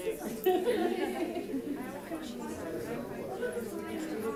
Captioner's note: crowd chattering